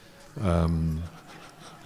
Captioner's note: laughter